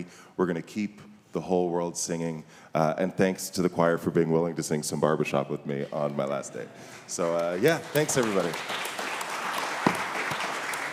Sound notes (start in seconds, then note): 7.1 audience applauding